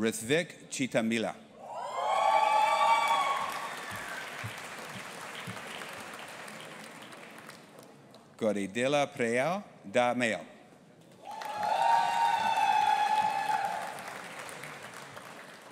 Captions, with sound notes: Rithvick Chitimilla. (AUDIENCE APPLAUDING AND CHEERING) Gauri Diliprao Dhamale. (AUDIENCE APPLAUDING AND CHEERING)